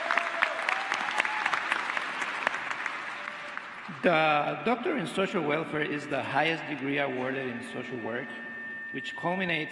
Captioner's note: applause